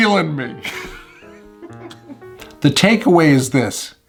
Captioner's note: chuckles